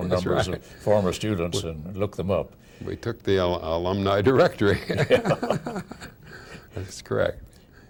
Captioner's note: laughs